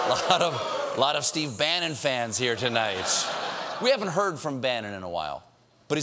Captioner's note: booing